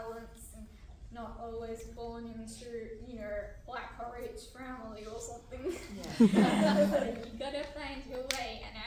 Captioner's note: laughter